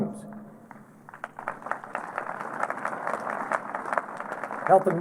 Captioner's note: applause